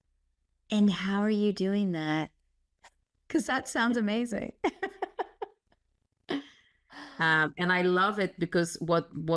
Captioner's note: laugh